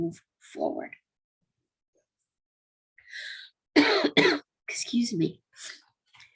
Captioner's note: cough, cough